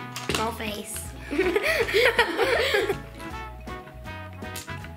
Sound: giggles

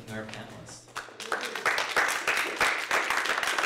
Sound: applause

